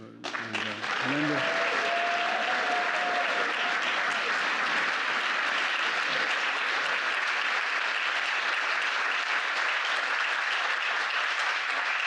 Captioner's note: applause